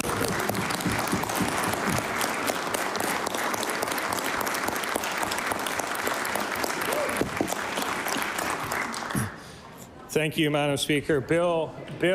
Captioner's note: applause